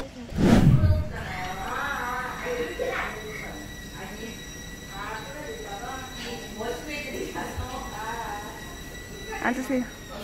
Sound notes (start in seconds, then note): 3.2 terrible sounds continue ringing in her ears; 5.2 whirrrrrrrrrr